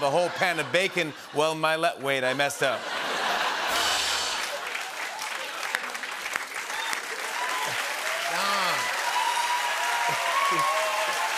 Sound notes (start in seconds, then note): 2.2 laughter; 3.6 rimshot; 5.4 cheers and applause